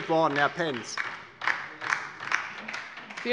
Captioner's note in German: Beifall DIE LINKE